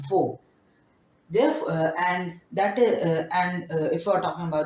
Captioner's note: stuttering